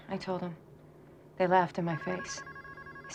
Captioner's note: phone ringing